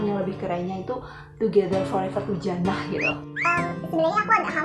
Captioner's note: whistle